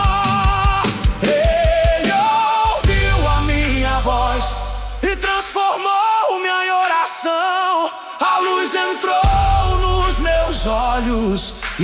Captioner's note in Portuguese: grito